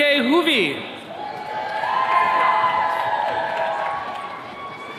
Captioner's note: attendees cheering